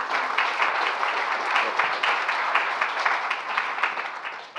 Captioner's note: applause